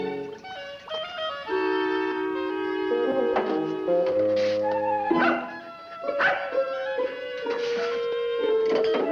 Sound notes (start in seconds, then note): 0.5 playful music; 5.1 dog barking